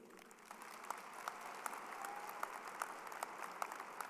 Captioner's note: audience applauding